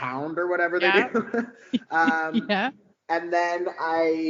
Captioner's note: laughing